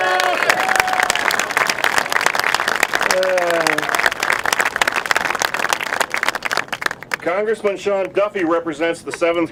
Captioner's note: applause